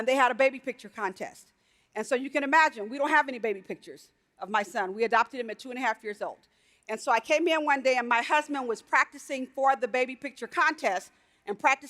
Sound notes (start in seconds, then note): none